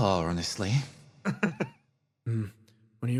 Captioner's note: laugh